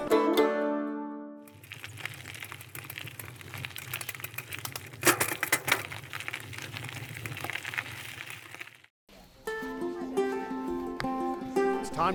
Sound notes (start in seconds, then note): 1.4 bike wheel clicking; 9.4 happy music